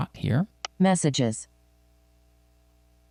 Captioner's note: automated Female Voice